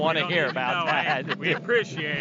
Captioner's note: all laughing